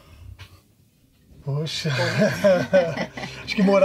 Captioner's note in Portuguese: risos